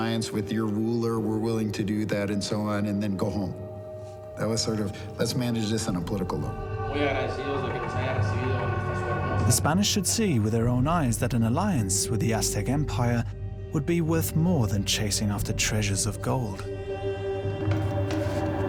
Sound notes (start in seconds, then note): 6.5 speaks indistinct Spanish